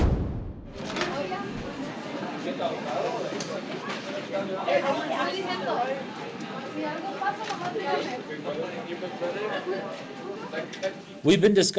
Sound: background classroom noises

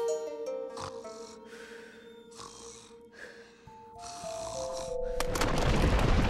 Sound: snoring

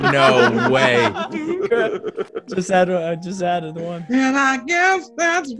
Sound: laugh

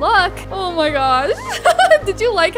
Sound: laughs

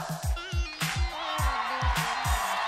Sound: crowd cheering

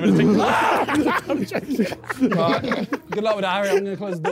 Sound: laughing; screaming

